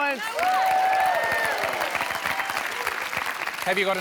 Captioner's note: cheering and applause